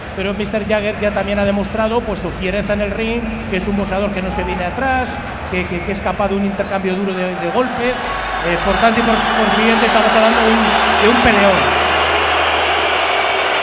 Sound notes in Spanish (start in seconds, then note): 11.1 Gritos